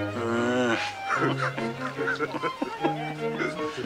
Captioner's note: Raw and Jimmy laugh